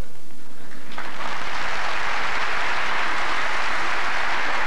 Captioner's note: applause